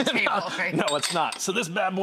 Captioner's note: guest chef laughs